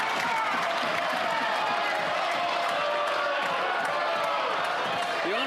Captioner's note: applause